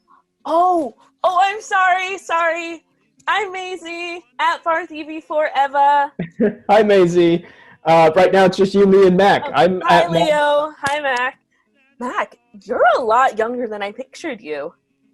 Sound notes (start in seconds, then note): 6.2 chuckles